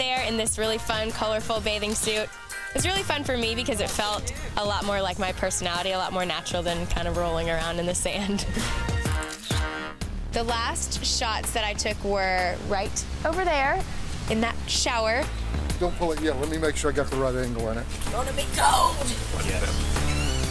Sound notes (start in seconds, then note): 2.8 camera snaps; 8.0 laughs; 20.2 upbeat music